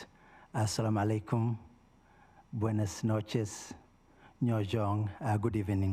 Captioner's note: speaking in foreign language